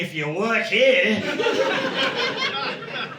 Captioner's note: audience laughing